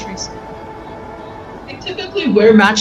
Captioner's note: background chatter